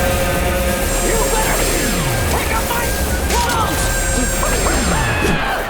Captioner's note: screaming